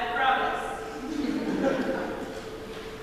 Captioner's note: laughter